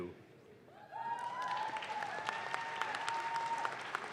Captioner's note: audience claps